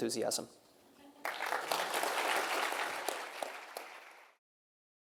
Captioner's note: audience clapping